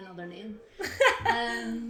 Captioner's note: laughs